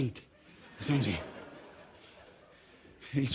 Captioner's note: Lachen des Publikums